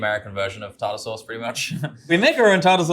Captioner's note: chuckles